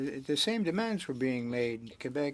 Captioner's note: speaking French